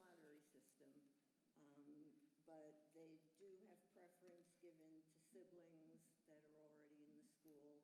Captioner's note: speaker away from mic